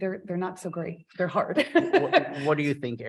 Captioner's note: chuckles